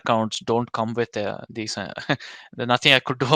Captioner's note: chuckles